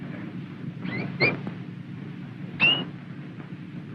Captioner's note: tweet, tweet, tweet